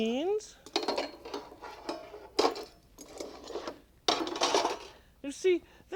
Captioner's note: clattering